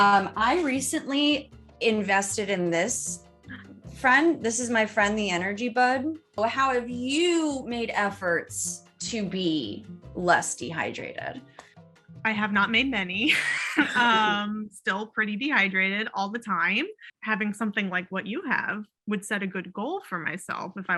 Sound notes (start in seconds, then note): 13.4 laughs